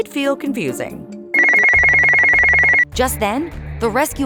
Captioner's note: phone ringing